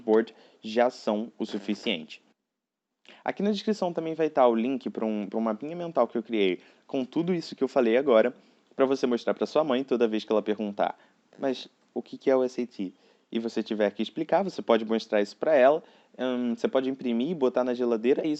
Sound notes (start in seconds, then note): 6.4 it's in Portuguese